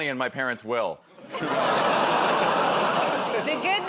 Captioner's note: laughter